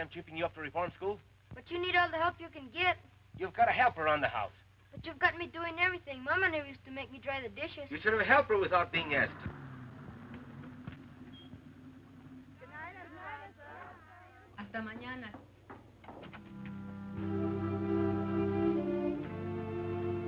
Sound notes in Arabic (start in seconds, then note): 15.9 مقبض الباب ينقر; 16.4 موسيقى هادئة